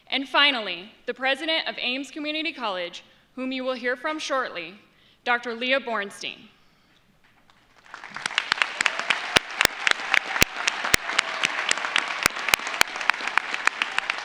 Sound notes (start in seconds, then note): 7.5 audience applauds; 7.8 audience cheers